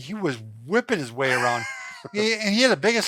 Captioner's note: laughs